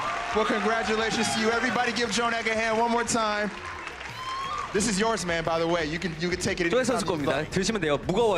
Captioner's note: applause